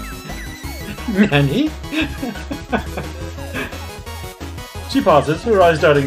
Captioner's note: laughing